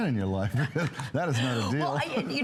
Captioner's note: laughter